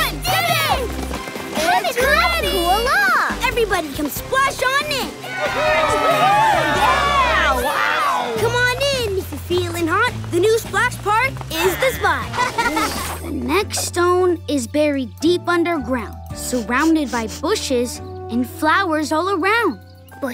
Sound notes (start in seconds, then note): 0.2 cheering; 8.3 cheering; 16.4 laughing